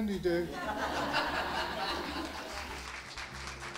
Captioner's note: laughter; applause